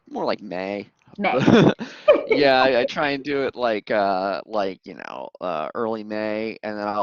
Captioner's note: laughter